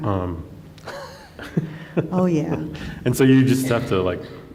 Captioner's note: laughs